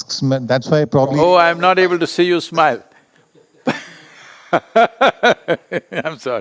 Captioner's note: laughs